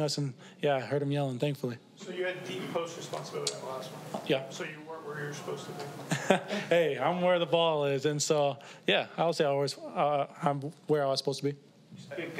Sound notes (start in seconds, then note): 6.0 laughs